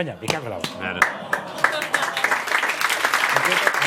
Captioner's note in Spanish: Aplausos